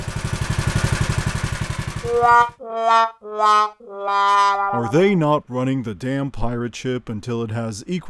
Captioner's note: go kart noise followed by a sad trumpet